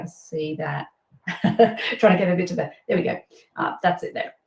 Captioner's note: laughs